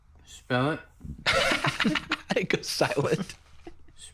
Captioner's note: laughs